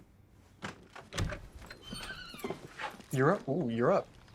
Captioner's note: door creaks open